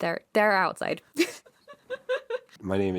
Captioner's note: laughter